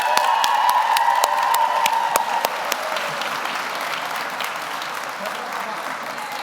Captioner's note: audience applauds; audience cheers